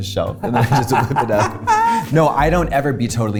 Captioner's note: laughing